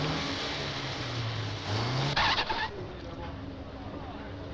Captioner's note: engine Starts; tires Screeching; engine Cranking